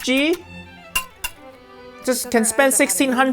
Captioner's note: whisk and bowl clinking